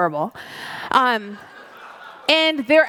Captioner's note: audience laughs